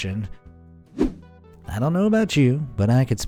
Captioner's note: air whooshing